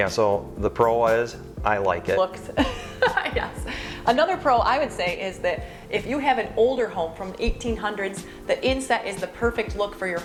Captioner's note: laughs